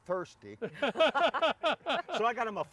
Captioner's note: laughing